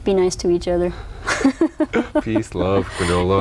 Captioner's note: laughter